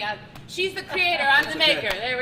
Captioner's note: laughing